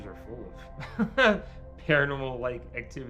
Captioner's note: laughs